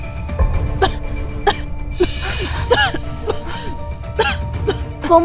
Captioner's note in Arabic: سعال